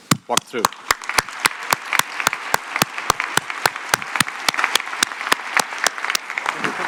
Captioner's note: applause